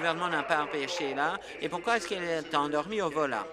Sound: applause

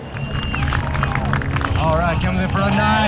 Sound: crowd clapping

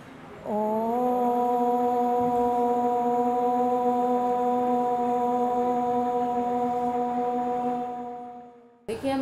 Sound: chanting

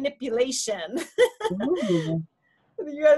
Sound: laughs

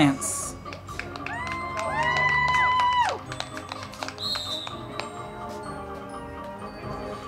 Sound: crowd clapping and cheering; band music

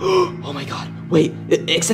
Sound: gasps

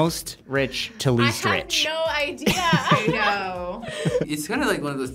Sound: laughs

